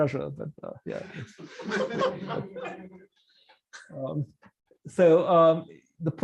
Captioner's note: laughter